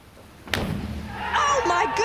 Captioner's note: splashing